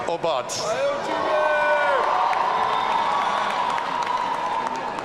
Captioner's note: audience cheering